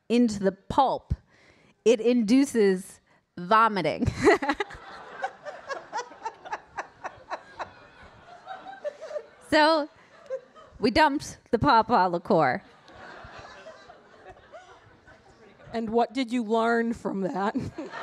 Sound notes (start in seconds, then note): 4.1 laughs; 4.2 audience laughing